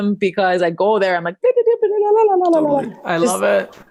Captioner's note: exclaims